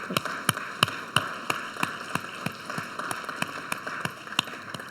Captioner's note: audience applauds